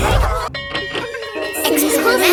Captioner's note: bell tolling; children laughing